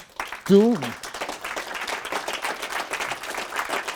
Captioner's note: applause